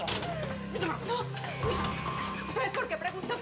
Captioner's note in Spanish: habla entre dientes